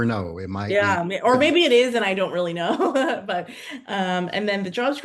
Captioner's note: chuckles